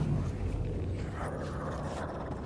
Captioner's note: suspenseful music; growling; suspenseful music